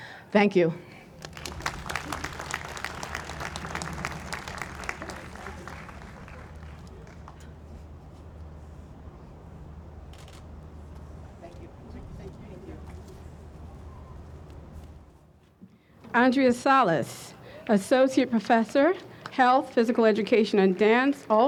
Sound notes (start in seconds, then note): 1.1 audience applauds; 10.1 camera clicks